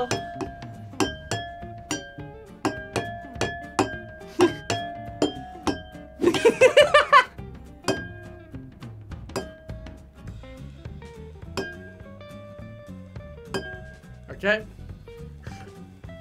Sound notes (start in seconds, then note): 0.3 glasses chiming; 6.2 laughs; 7.8 glasses chiming